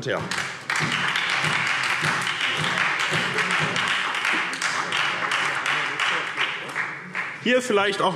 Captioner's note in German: Beifall SPD